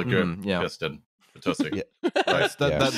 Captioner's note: laughs